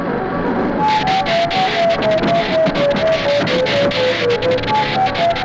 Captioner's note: electricity zapping